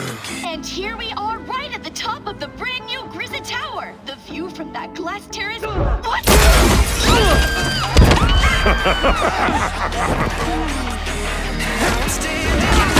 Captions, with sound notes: And here we are right at the top of the brand new Griza Tower. The view from that glass terrace— What?! [Screaming] [Mr. Mark laughs]